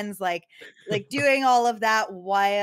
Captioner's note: laughs